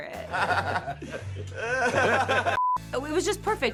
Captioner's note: men laughing